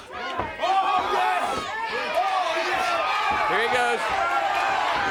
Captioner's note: crowd chatter